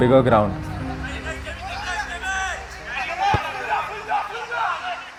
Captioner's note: indistinct chatter